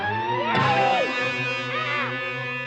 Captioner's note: thumps